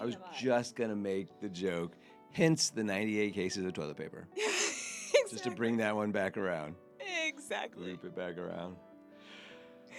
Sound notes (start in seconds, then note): 5.1 laughing